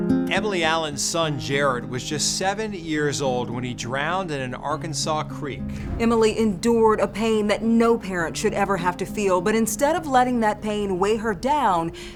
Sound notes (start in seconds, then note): 0.0 gentle music; 5.7 graphics whooshing